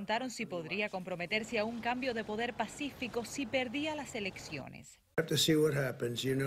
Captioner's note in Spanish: habla en ingés